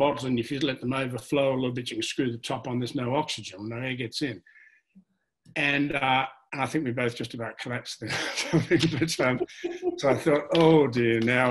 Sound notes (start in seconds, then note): 8.5 laughs